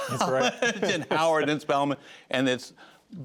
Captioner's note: laughter